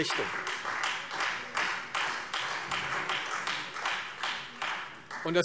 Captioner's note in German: Beifall Freie Demokraten